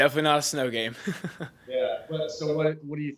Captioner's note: laughs